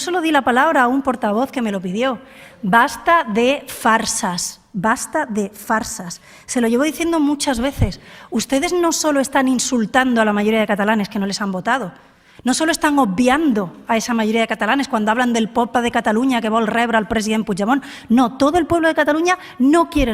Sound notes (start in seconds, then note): 16.1 speaks in Catalán